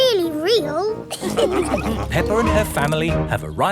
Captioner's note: all laughing